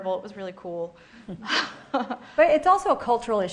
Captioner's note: laughing